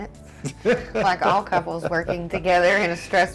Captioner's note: laughs